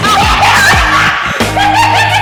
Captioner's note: Mooshie laughing; Nicholas & Yesenia exclaim